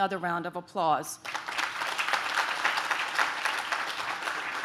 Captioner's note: audience claps